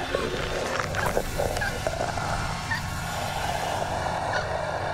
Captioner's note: Lyne choking